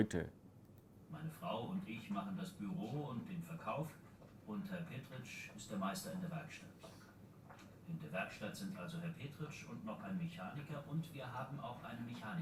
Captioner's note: textbook audio is played